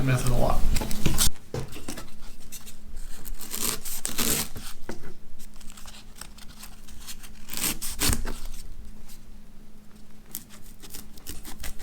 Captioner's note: cutting and peeling sounds